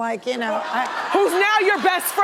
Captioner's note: audience laughing